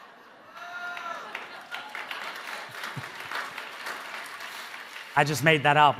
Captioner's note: audience laughing; audience cheering; audience applauding